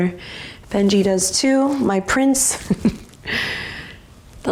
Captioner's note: chuckles